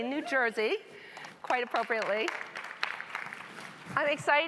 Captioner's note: audience clapping